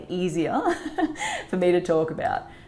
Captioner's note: chuckles